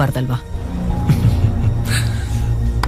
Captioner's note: chuckles